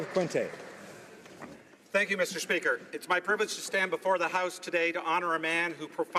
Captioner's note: applause